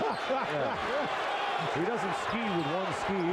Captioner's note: laughter